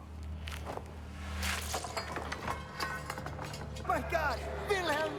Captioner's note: clattering; panicked voice